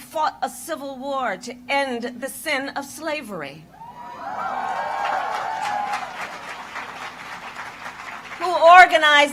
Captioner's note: applause